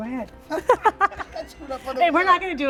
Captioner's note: laughing